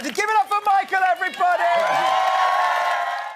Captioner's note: audience cheering